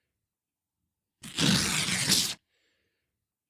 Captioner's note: ripping